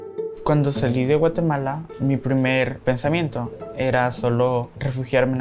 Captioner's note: whimsical music; speaking Spanish